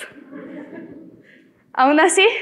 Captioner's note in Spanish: Risas